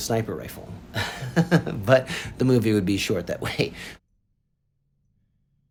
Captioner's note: chuckles